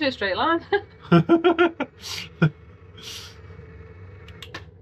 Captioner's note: laughter